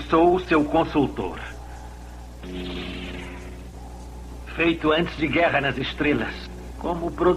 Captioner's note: whooshing